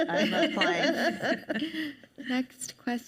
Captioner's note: panelists laugh